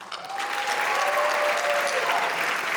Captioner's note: applause